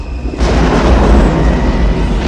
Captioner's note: thunder sounds